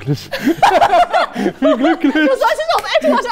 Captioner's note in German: Lachen